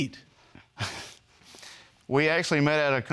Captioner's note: chuckles